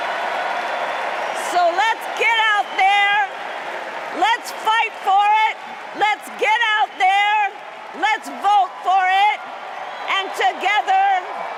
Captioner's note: cheers and applause